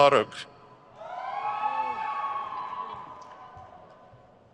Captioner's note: crowd cheers